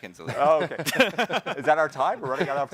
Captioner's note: hosts laughing